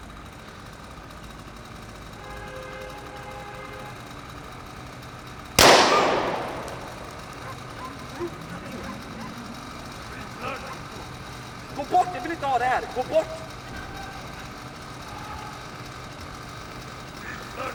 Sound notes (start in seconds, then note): 2.7 horn sounds; 5.6 gunshot; 7.7 dog barking from afar; 10.4 man speaking in foreign language